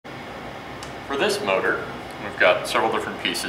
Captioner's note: voiceover